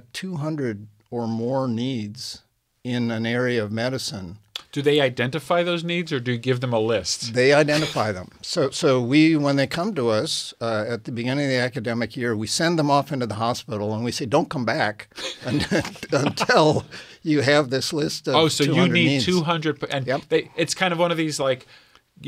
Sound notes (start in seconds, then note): 15.1 laughing